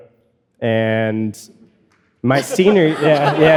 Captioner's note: audience laughing